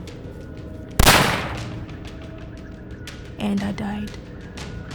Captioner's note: gun firing